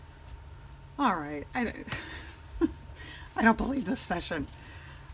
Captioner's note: laughs